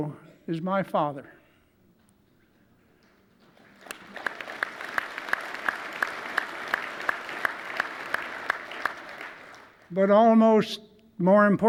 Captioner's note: applause